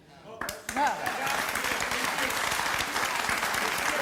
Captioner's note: audience applauding